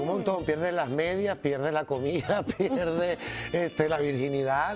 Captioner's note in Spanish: risas